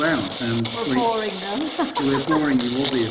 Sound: laughing

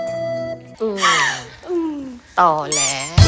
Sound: sobs

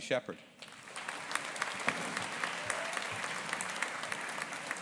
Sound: audience applauding

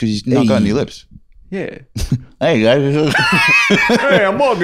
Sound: mumbling, imitating talking without lips

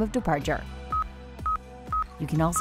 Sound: device beeps

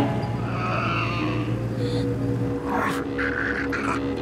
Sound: Riley growling

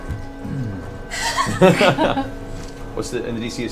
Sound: all laugh

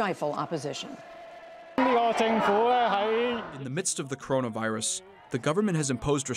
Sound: through translator

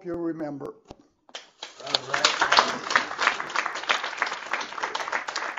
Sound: applause

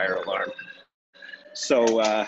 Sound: alarm blaring

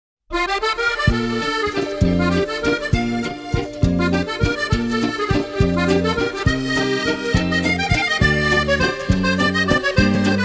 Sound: epic BAGUETTE bonjour sound

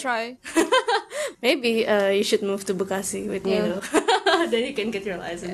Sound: laughs

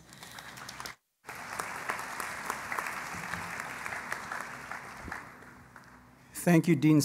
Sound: applause

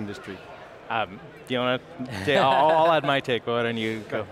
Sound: laughs

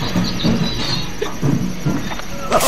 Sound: hiccups

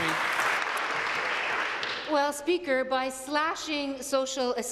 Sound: applause

